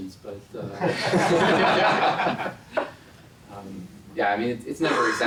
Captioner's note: laugh